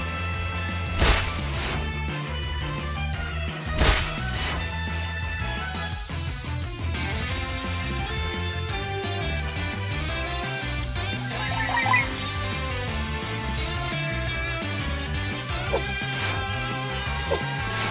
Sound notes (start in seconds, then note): 0.9 sounds of rat being squished by more boulders; 3.7 Sound of rat slapping a water deer butterfly dinosaur thing; 9.7 water noises; 16.0 screams of a deer being violently clawed by a rat